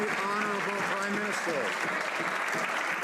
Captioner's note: some Applause